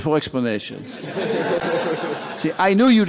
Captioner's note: laughter